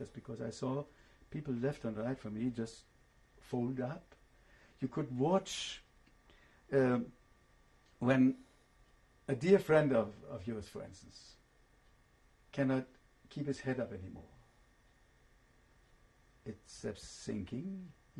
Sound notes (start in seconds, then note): 5.4 pauses for 3 seconds